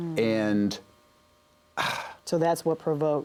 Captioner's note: exhales